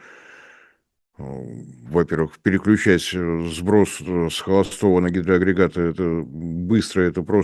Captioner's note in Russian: фыркает